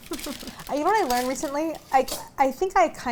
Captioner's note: chuckles